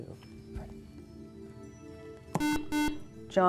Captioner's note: whispering; beeping